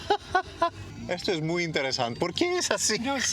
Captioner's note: laughing